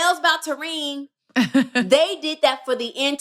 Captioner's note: laughter